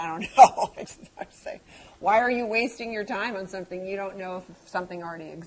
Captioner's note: laugh